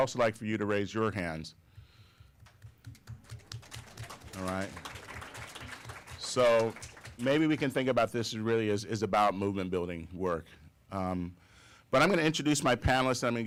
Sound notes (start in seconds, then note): 2.5 applause